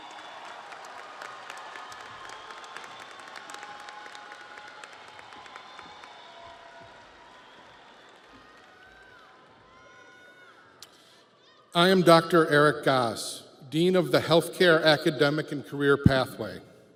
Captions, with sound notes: (audience cheers) (audience applauds) - I am Dr. Eric Gass, Dean of the Healthcare